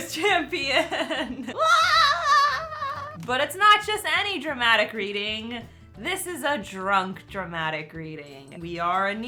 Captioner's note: makes an excited noise